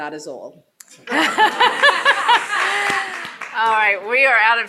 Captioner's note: attendees laughing